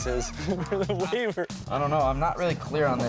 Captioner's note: laughter